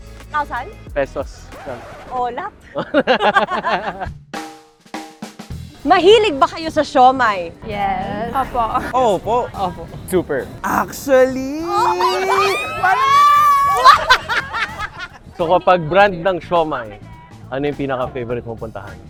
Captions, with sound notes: - Thousand? - Pesos. It's a loss. (laughs) Do you like siomai? - Yes. - Super. - Actually! - Oh my god! - Yes! (laughs) - So when talking about brands of siomai, what's your favorite go-to?